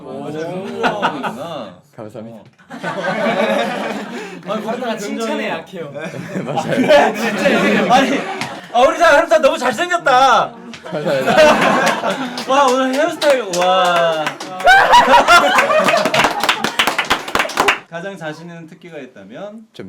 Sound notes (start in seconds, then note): 14.6 screaming